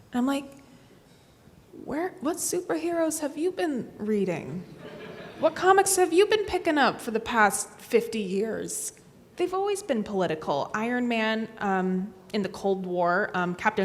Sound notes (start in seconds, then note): 4.8 audience laughs